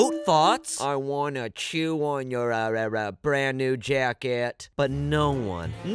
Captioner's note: goat voice